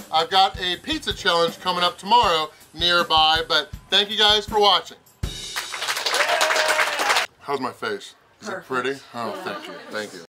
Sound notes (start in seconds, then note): 5.4 crowd applauds, cheers